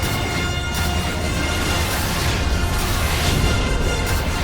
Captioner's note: overlapping sounds of lasers and explosions